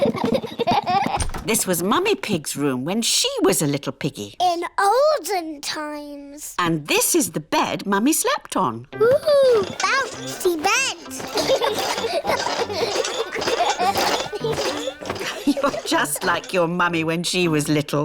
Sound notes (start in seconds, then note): 9.2 children laugh